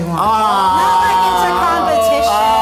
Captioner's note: groaning